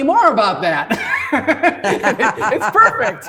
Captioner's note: both laughing